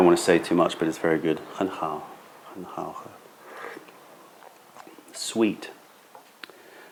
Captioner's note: sips tea